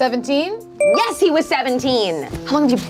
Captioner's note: bell chimes